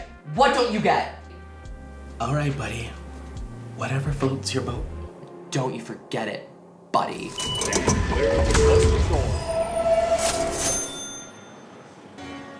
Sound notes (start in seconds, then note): 7.3 train doors whirring